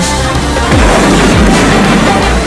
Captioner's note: explosion